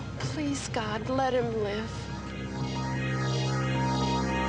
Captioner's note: machine beeping